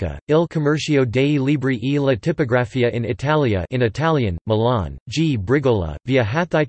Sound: in Italian

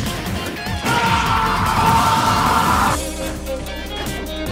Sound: ahhhhh

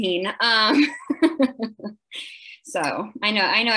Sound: laughs

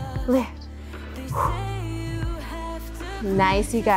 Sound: exhales

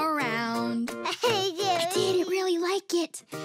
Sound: babbles

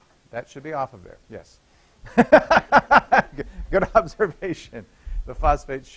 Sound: laughter

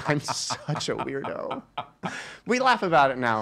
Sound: laughing

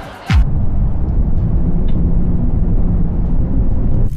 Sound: wind blowing

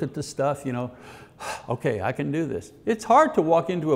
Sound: exhales

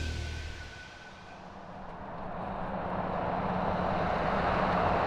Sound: car engine revving

